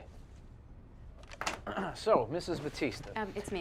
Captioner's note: Tommy clears his throat